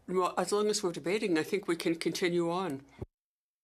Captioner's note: speaking French